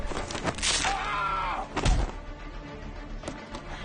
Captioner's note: bone breaks; screams